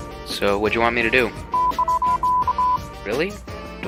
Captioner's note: beeping